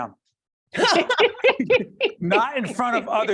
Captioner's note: laughing